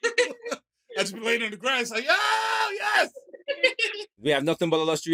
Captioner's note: yells